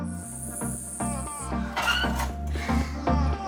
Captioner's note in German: bsssssssss